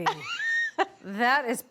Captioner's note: laughs